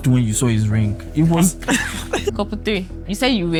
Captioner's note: laughs